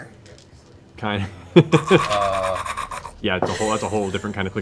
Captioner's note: Last of Us clicker noises